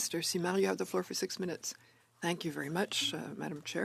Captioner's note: speaking French